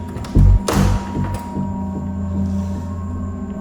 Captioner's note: door creaking